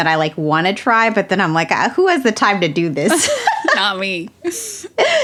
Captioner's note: laughs